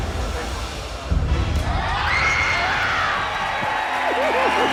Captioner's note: Gritos e aplausos